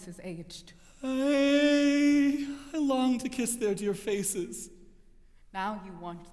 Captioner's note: moans